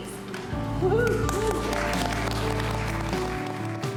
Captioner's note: applause